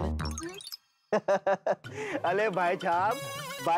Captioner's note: chuckles